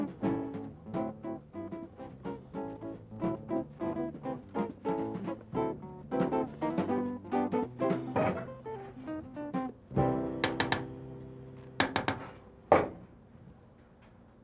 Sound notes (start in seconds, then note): 0.9 calm music; 10.5 spoon tapping